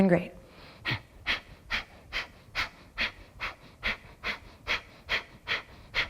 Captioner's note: repeated sharp exhalations